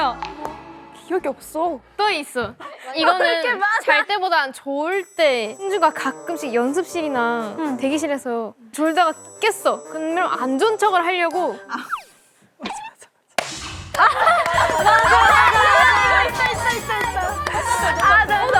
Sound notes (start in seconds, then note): 14.3 claps